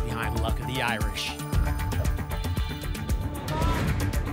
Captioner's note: thump; whoosh